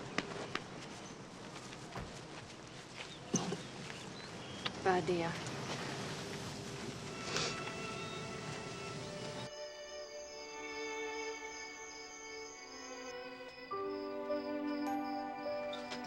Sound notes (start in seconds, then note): 7.8 somber music; 10.4 insects chirping; 13.4 mellow music